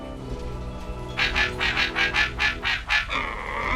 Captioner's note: robotic barking